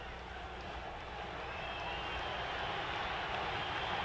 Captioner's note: audience cheering